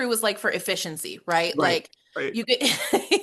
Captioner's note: laughs